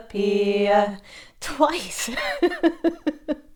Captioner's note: laughs